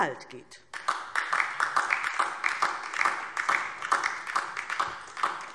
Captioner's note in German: Beifall DIE LINKE und vereinzelt SPD